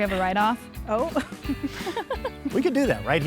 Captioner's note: laughing